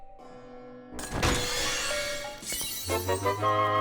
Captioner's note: chest opening and zelda item fanfare plays